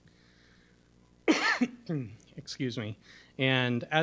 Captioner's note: coughs